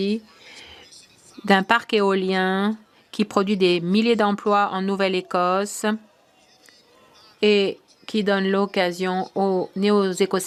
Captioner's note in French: voix de l'interprète